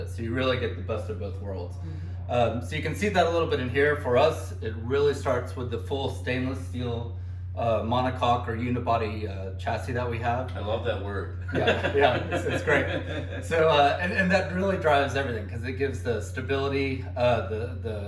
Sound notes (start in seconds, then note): 11.4 laughs